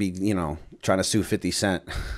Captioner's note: chuckle